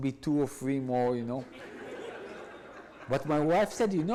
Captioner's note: audience laughs